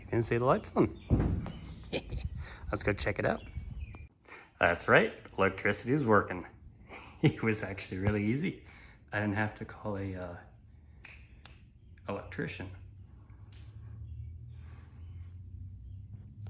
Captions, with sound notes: -- you can see the lights on. Lets go check it out. [ Wind Noise ] That's right. Electricity's working. [ Chuckles ] It was actually really easy. I didn't have to call a uhh . .. . .. an electrician